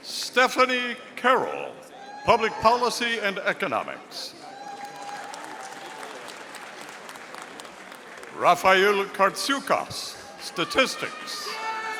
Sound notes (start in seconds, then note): 4.5 audience applauding